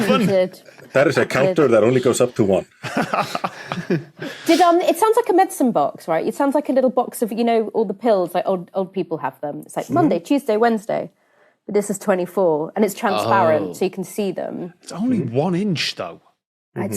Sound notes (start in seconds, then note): 2.8 chuckles; 2.8 laughs